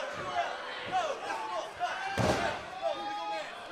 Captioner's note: crowd chatter